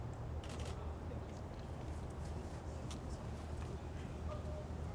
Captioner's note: camera clicks